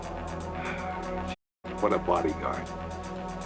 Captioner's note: sighs